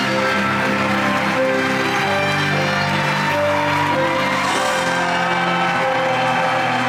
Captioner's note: audience continues cheering and applauding